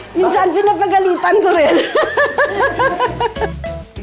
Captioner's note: laughs